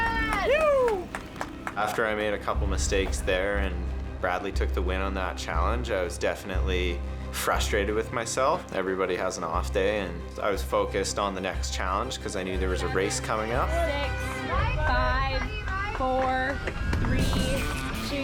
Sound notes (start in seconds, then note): 0.0 all cheer